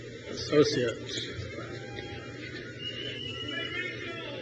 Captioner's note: crowd cheers